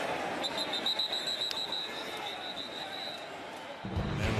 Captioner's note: whistle blowing